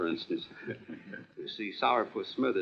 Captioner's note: laughing